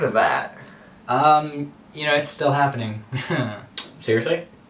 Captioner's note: nervous laughter